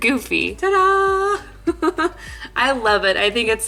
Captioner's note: giggling